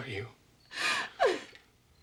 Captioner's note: sobbing